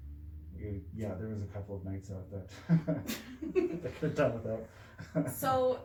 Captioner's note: laughts